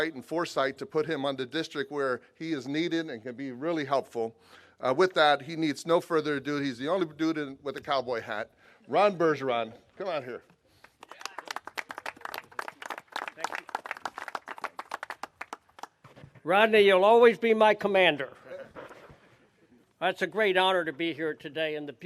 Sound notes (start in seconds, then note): 10.8 clapping